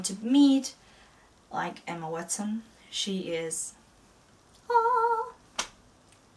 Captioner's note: angel choir imitation